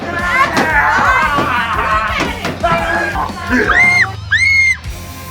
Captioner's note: clown makes weird noises